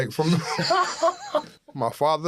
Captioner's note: laughter